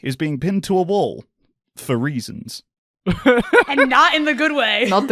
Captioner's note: laughs